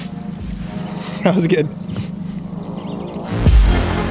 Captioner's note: laughs; techno music